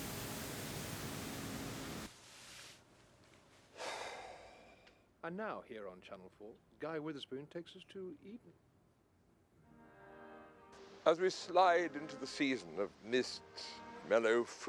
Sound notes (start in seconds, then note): 0.1 engine rumbling; 3.7 Rob sighs